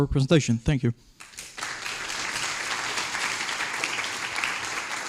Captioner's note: applause